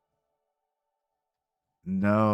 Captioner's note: silence